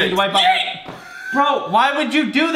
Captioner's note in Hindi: चिल्लाना; पॉप